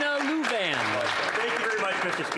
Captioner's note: applause